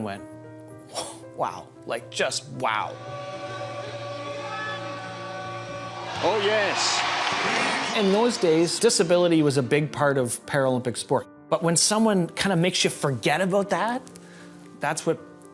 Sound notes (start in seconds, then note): 2.8 crowd cheering